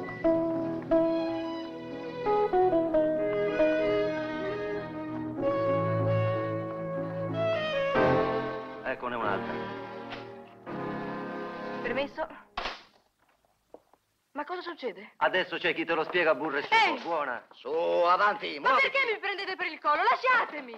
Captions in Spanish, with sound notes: (MÚSICA DE FONDO) Aquí hay otro. (CRUJEN DE LA PUERTA) - ¿Permiso? - ¿Lo que sucede? - Ahora te lo explicamos. - ¡Oye! - ¡Hacia adelante! - ¿Por qué me tomas del cuello?